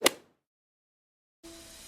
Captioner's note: golf hit sound effect